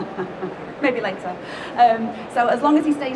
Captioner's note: laughs